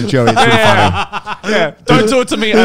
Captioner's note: laughing